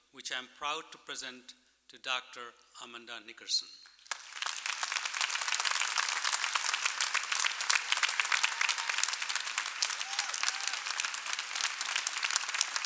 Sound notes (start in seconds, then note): 3.9 applause